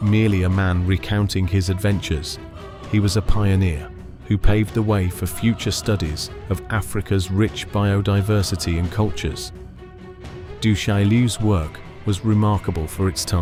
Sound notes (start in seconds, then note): 9.7 voiceover